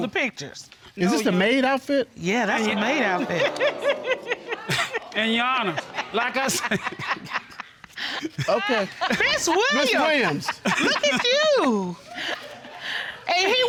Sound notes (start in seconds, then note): 4.1 audience laughing; 5.8 laughing; 7.8 laughs